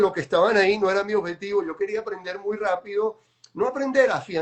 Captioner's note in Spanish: none